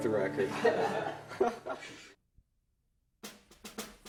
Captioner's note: laughs; snare drum rolls